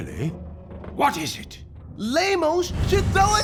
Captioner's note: screaming